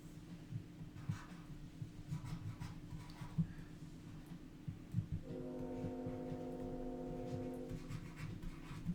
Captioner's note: scratching Sound, Train Whistle